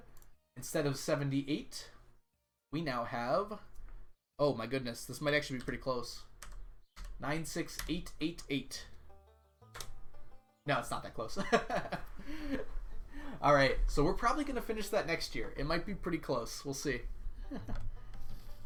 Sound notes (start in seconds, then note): 11.4 laughs; 17.4 chuckles